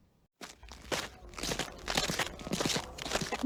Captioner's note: sound of footsteps on gravel